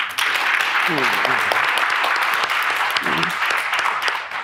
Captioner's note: audience clapping